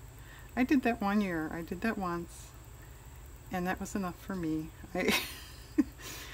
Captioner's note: laughs